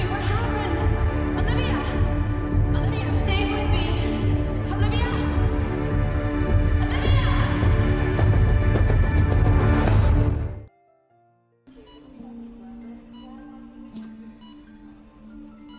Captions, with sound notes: Olivia! Olivia, stay witith me! Olivia!! (siren wailing) Olivia! (soft music)